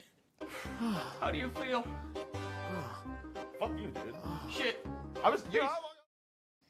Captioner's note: gasping